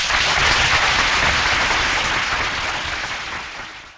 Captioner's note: audience applauding